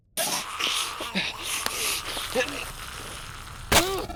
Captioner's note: Maddy growling